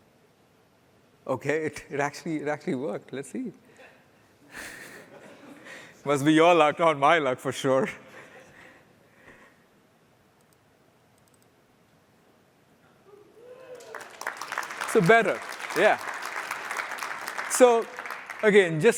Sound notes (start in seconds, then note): 7.9 applause